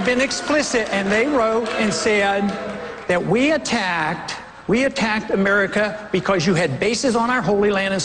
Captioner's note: boos